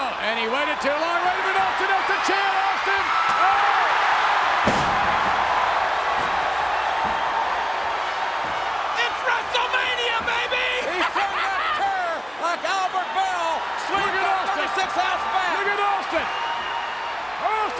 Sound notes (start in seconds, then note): 3.7 audience cheering; 4.3 chair thuds; 5.0 body thuds